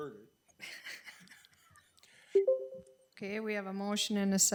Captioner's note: people laughing